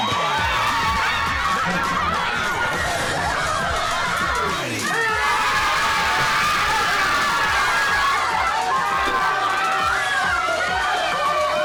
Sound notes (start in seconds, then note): 0.2 cheering; 4.8 cheering